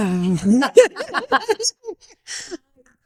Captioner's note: all laughing